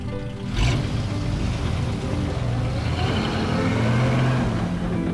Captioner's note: engine turning